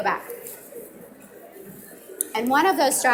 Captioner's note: audience mumbling